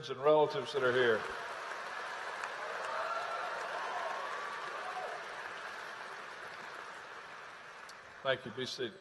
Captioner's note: applause